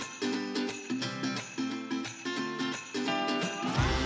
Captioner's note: bells jingling